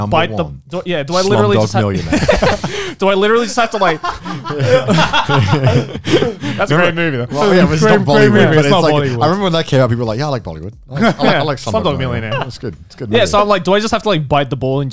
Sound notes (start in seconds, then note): 1.9 everyone laughs